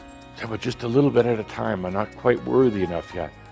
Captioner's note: none